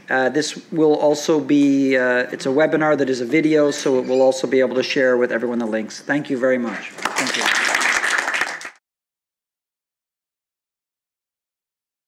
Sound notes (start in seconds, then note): 6.9 applause